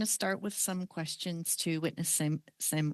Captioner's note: speaking French